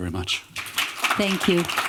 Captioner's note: applause